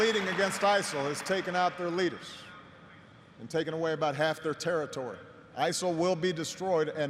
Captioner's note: applause